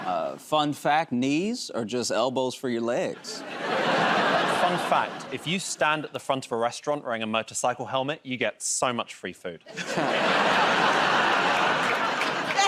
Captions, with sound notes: -Fun fact -- knees are just elbows for your legs. [ Laughter ] -Fun fact -- if you stand at the front of a restaurant wearing a motorcycle helmet, you get so much free food. [ Laughter and applause ]